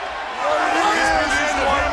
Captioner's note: crowd chatter